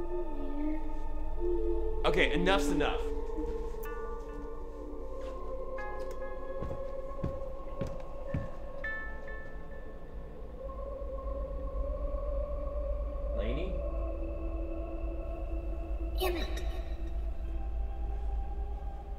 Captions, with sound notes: (sing songy voice calls) Okay, enough's enough. Lainey? - [Voiceover] Emmett.